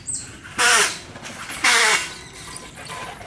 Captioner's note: bicycle brakes screetching